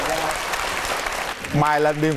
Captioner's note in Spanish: aplauso